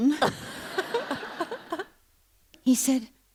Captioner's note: laughter